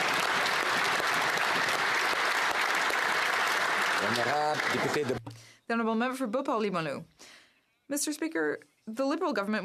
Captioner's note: applause